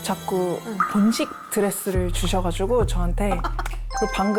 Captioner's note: A little awkward sound effect